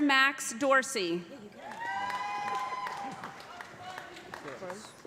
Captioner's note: loud cheering